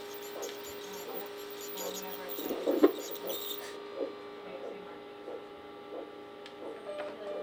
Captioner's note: sounds of operation room monitors